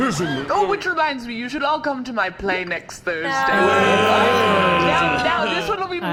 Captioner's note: everyone groans